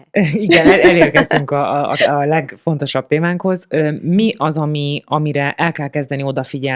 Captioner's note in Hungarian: nevetés